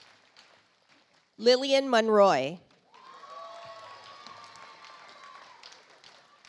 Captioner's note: audience applauds